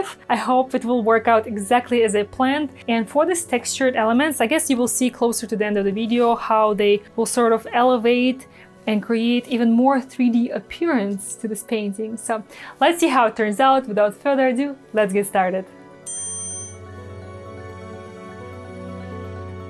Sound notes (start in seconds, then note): 16.0 wink dings; 16.9 gentle music